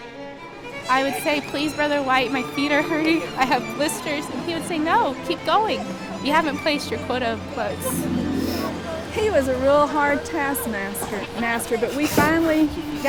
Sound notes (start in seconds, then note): 11.6 laughter